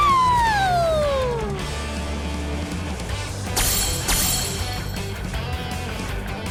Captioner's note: bright rock music; point rings chinging